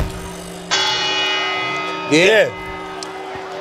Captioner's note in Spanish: Décima campanada